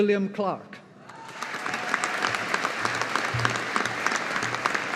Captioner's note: audience applauding